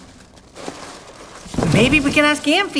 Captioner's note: box rustling